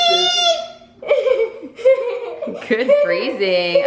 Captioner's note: laughing